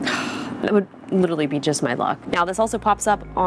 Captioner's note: sighs